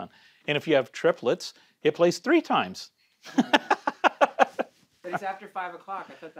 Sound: laughs

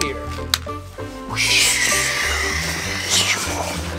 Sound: whooshing

